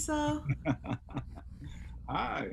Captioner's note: laughing